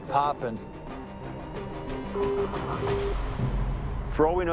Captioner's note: tone sounding